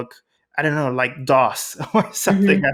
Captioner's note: laughs